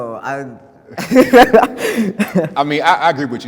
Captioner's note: laughs